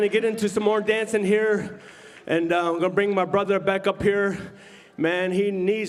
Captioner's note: cheering and applause